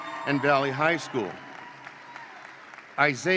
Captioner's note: attendees cheer; attendees applaud